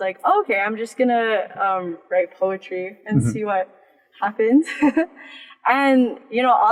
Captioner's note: giggles